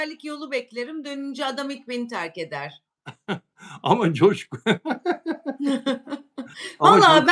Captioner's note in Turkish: kahkaha